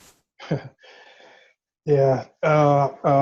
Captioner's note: chuckles